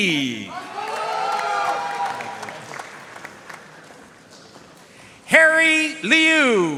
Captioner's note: audience cheering and applauding